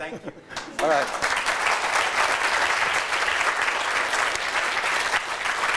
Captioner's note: applause